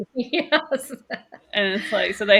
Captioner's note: laughs